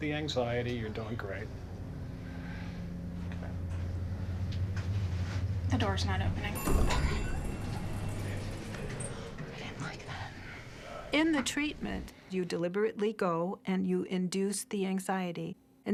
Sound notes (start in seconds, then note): 6.5 door rings and opens; 9.7 whispering